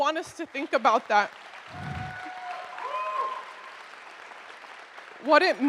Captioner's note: audience cheers and applauds